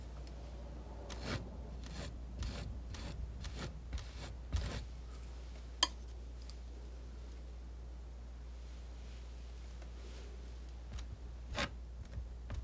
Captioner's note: scratching